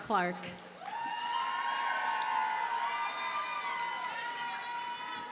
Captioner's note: audience cheers and applauds